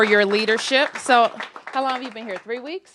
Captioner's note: applause